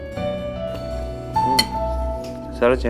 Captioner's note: Spoon clinks